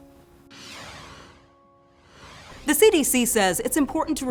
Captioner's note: screen whooshing